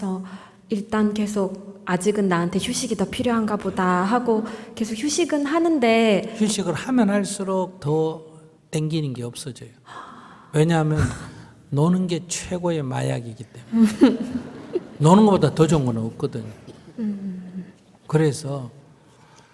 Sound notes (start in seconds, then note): 13.7 laughter